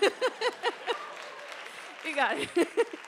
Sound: audience applauds

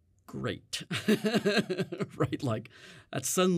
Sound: laughs

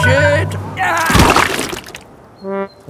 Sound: groans

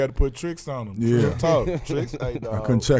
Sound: laughing

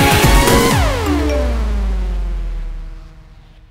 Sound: message tone

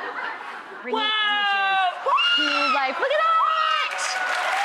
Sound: screaming; clapping and cheering

